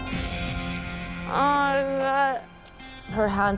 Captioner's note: slurring